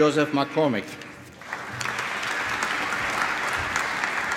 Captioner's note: applause